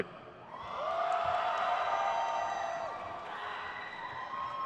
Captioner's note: crowd cheers